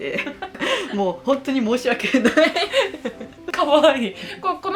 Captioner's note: laughs